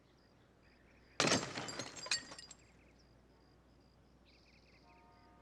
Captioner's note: glass shattering